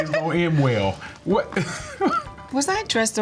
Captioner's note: chuckling